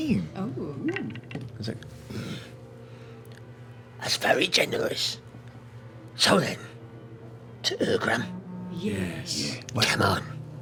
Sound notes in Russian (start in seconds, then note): none